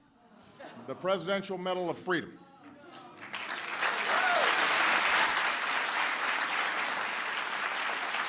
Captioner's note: applause